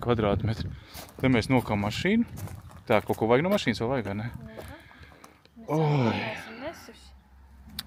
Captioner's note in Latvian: šņākšana